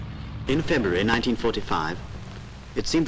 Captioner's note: voiceover